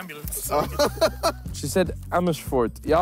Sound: laughs

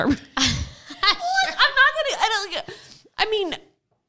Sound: laughing

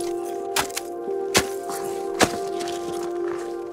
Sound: cracking

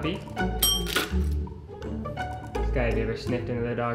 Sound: bell dinging

